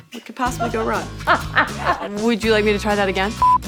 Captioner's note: laughs